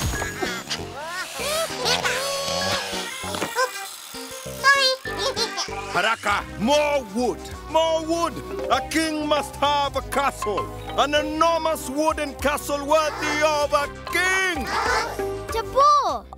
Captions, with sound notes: (Bongalalas chattering) - Oops! Sorry! (laughter) - More wood! More wood! A king must have a castle! An enormous, wooden castle worthy of a king! - Tobor!